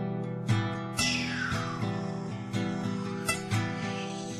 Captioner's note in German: Sänger macht rauschende Laute